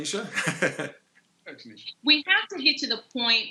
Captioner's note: laughs